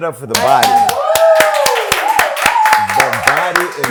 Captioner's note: clapping